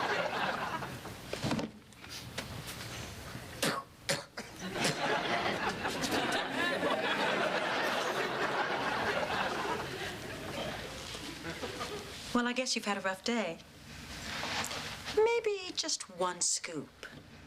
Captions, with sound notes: [SPITTING] WELL, I GUESS YOU'VE HAD A ROUGH DAY. MASTYBE JU ONE SCOOP . YE